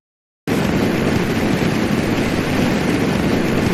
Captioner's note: rocket whooshes